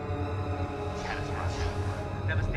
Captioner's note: voice echoing